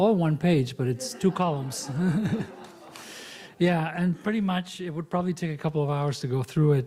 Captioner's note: laughs